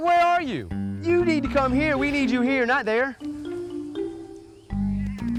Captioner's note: laughs